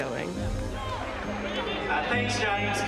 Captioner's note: crowd chanting